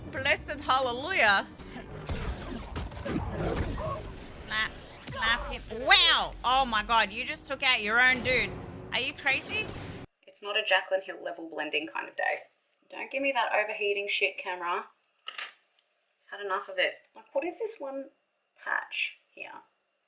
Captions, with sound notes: Blessed Hallelujah [lightsaber impacts] Slap. Slap ya - WOW! Oh my god You just took out your own dude Are you crazy? It's not a Jaclyn Hill level blending kind of day. Don't give me that overheating shit, camera. I've had enough of it. What is this one patch here?